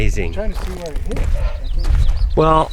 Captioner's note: panting